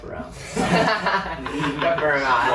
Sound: laughter

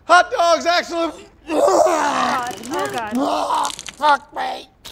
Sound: vomiting

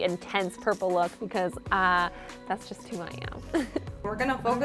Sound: chuckles

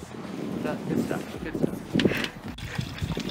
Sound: talks distantly

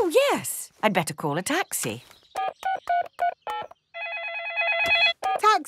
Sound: phone ringing; dialing

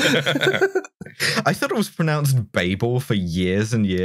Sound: laughter

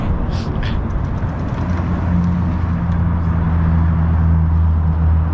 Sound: car motors revving

